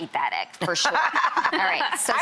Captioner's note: laughing